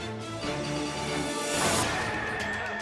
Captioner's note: graphics whooshing; tense music